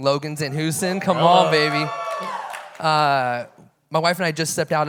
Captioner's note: audience cheering